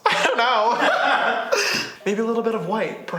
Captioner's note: laughs